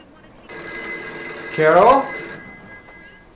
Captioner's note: phone ringing